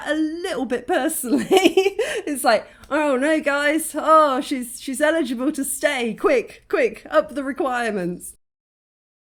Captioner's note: laughing